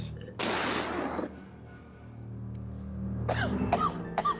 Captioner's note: Wally sputters whiskey; Wally coughs